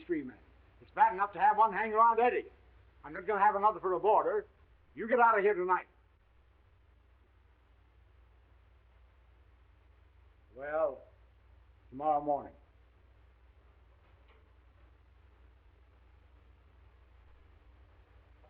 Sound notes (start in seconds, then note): none